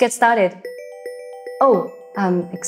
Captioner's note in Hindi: फ़ोन बज रहा है